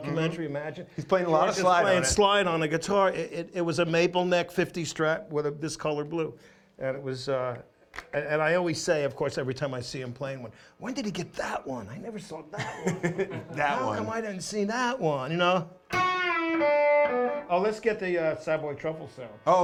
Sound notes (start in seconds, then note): 12.5 laughs; 15.8 guitar playing